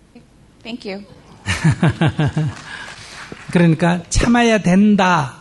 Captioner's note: Sunim laughs